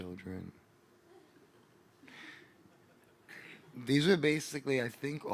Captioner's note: audience laughing